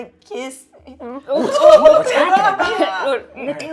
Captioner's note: laughing